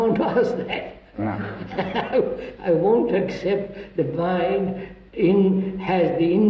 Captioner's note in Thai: หัวเราะ